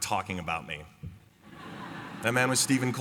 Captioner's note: laughter